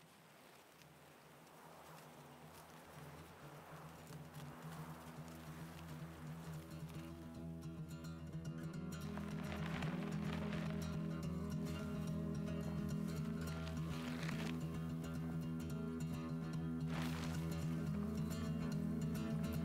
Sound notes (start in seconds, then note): 2.9 lively instrumental music; 11.2 wind whirling